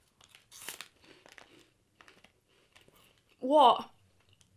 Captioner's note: munching